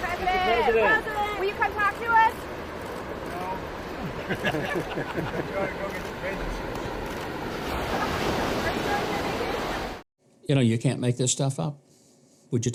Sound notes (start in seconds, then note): 3.9 reporters laugh